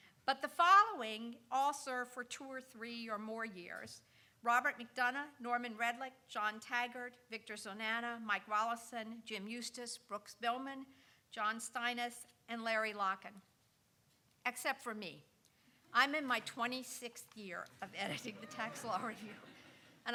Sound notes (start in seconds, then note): 17.9 laughing; 17.9 audience chuckling